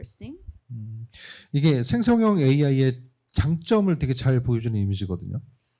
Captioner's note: speaking korean